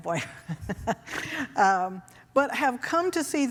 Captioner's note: laughing